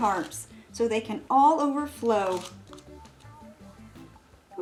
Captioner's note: hums